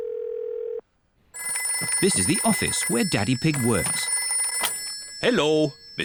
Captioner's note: phone rings